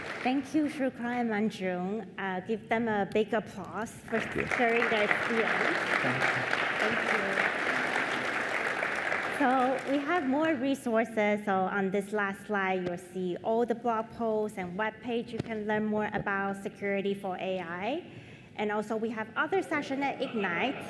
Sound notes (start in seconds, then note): 4.0 applause